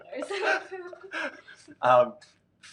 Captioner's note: laughing